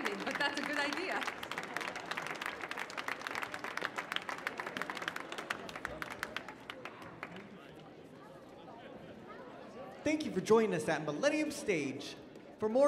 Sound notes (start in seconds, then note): 2.7 audience applauding; 4.8 crowd murmuring